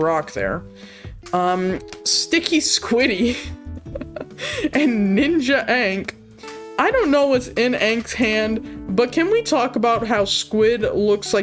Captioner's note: chuckles